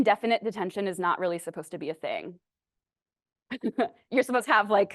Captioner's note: laughs